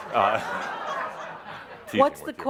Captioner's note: laughter